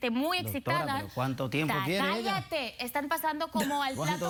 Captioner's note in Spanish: risas